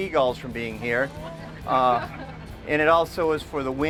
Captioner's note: audience laughing